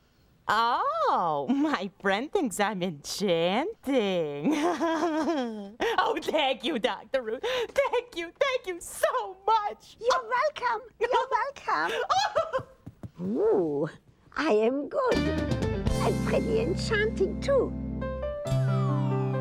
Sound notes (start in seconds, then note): 4.5 laughing; 11.8 giggling